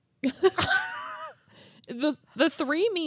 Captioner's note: laughing